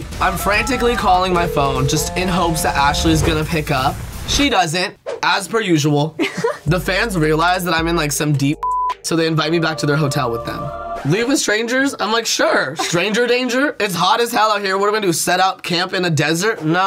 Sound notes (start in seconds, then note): 6.2 laughs; 8.6 beep